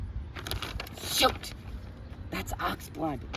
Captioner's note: whispering